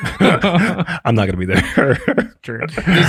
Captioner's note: group laughs